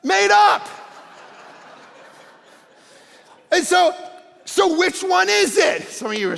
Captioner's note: congregation laughing